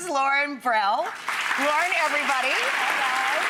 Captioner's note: audience applauds